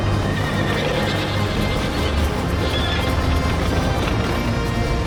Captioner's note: horse whinnying